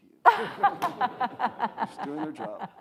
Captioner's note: audience laughs